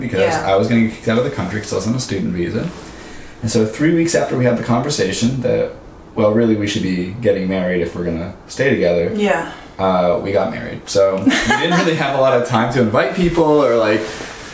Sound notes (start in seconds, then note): 11.2 laughs